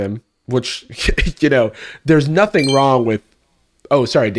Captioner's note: ding!